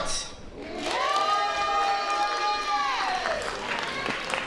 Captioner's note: applause